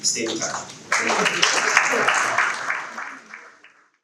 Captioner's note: audience clapping